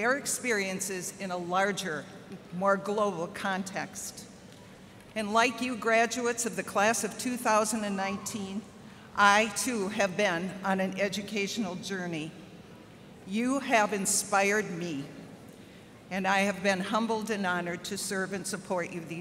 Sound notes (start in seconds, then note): none